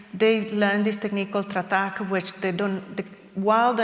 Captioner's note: non-english speech